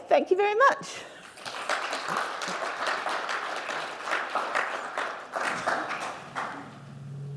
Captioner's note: applause